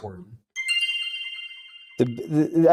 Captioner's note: bell chimes